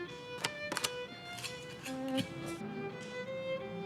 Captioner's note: scrape, scrape